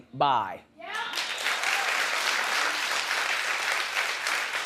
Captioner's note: audience clapping